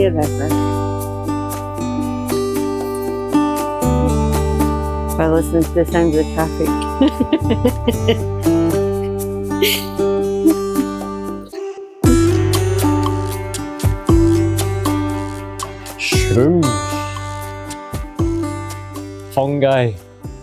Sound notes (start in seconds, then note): 6.9 laughter